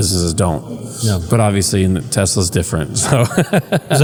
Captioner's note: laugh